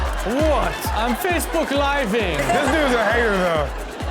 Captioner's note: crowd laughs